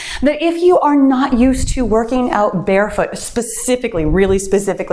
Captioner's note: none